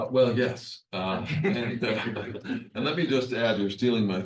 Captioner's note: attendees laughs